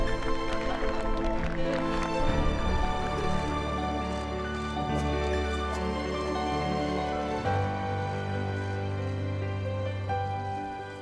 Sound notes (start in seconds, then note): 0.0 crowd clapping